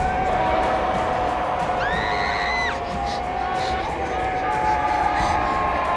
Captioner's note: Reenactment Bryn screams